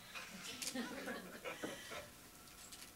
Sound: laughter

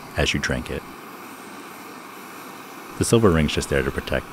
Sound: flame whooshing

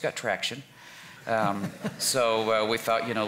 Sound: everyone chuckles

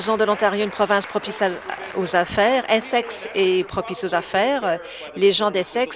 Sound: applause

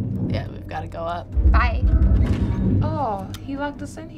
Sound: door shutting

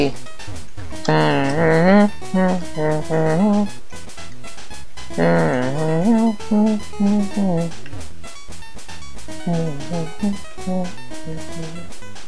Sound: humming to the music

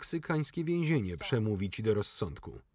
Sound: laughing

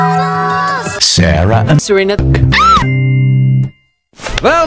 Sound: Usagi screams

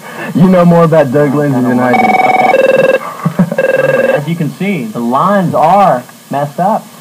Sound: phone ringing

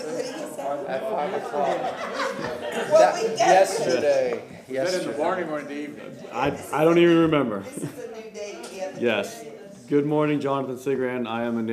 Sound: laughter

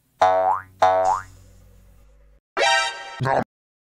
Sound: boing; boing boing

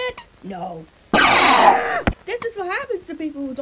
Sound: lightning sound

